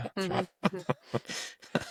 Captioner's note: laughing